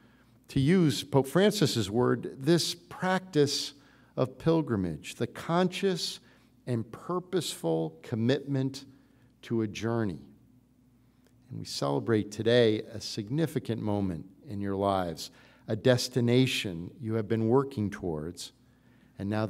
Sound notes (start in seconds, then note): none